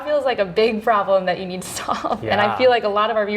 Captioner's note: laughs